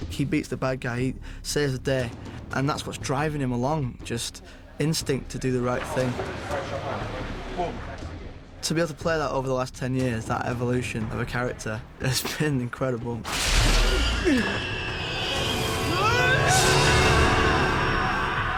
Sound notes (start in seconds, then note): 15.9 neville yells